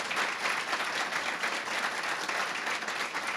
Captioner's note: applause